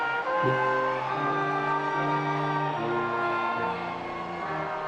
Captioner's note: attendees cheering